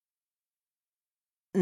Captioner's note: silence